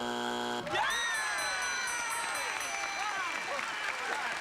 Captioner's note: applause